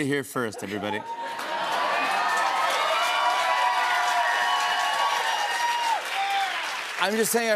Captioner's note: cheers and applause